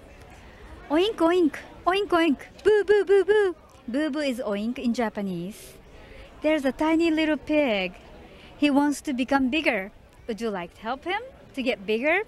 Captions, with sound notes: (speaking in foreign language) Boo boo boo boo boo boo boo boo boo boo boo boo boo boo boo. There's a tiny little pig. He wants to become bigger. Would you like to help him to get bigger?